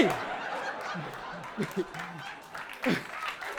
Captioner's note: audience laughing